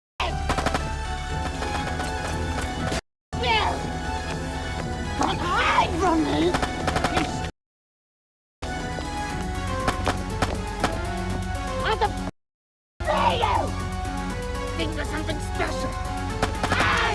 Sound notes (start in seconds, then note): 0.4 gun firing; 6.5 gun firing; 8.7 gentle upbeat music